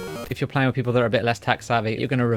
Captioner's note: robotic computer sound